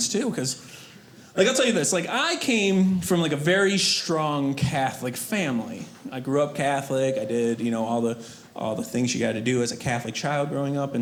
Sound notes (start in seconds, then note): none